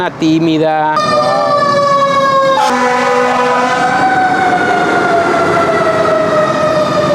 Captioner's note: sound of fire engines